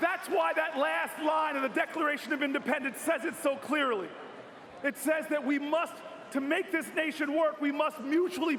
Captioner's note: cheers and applause